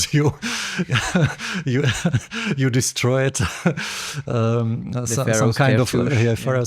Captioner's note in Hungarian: nevetés